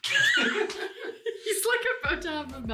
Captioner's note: laughing